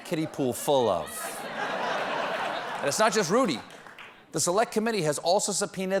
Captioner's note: laughter